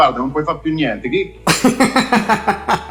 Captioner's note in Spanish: ríe